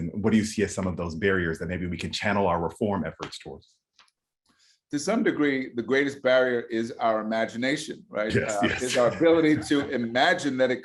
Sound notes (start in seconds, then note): 8.3 chuckles